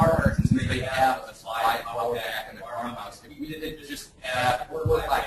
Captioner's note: distorted speech